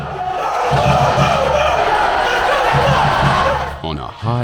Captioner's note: yelling